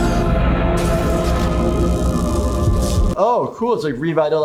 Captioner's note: machine buzzing